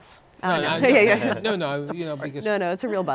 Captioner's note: laughter